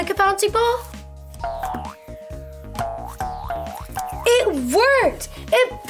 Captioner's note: ball bouncing